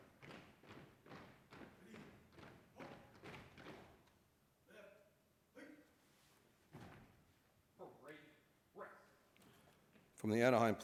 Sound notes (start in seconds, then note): 0.0 marching commands